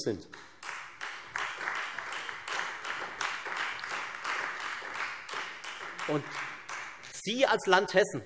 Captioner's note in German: Beifall Freie Demokraten